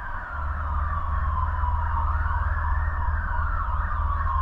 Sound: sirens

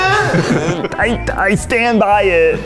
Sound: laugh

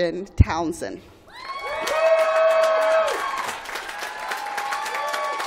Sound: applause

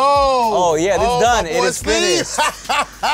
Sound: laughing

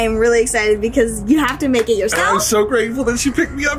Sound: claps

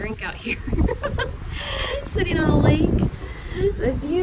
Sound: giggles

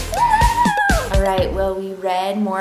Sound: cheers

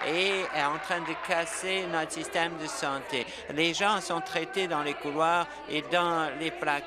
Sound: applause

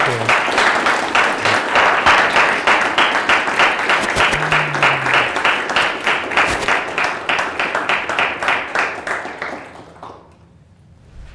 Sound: applause

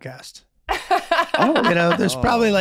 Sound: Meg laughing

